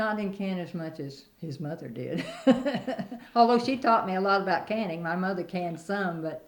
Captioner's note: laughs